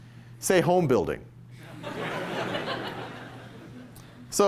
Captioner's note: laughter